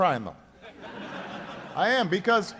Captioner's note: laughter